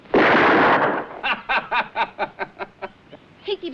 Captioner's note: laughs